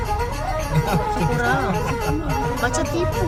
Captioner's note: laugh